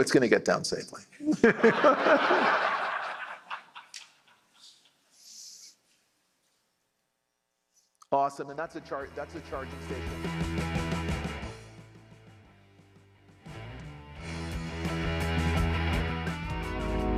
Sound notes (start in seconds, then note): 1.2 laughter